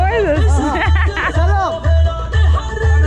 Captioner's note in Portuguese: risos